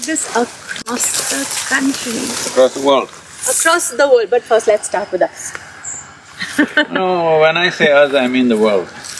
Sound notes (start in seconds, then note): 6.3 laughs